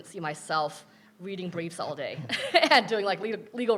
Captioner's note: laughing